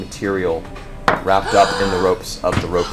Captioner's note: gasps